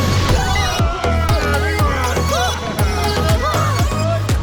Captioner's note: group exclaims